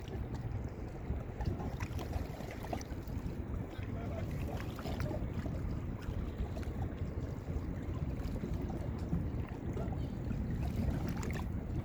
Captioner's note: water sloshing, birds chirping